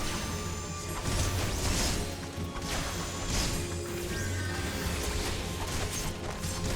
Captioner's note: gun fires